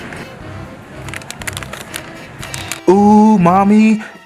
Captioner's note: plastic crinkling